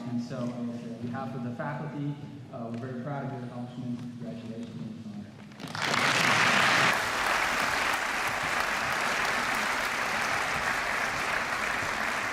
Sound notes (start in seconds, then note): 5.5 applause